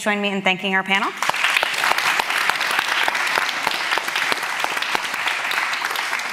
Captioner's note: applause